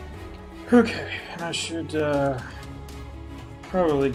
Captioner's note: sighs